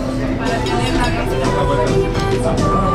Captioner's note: diners talking